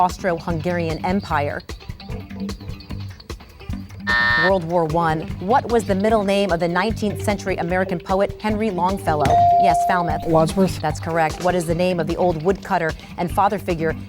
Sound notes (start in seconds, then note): 4.4 buzz; 9.2 ding